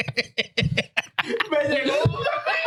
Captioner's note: laughing; speaking In Foreign Language